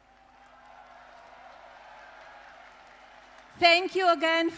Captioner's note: applause